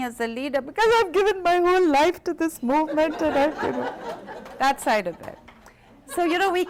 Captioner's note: laughter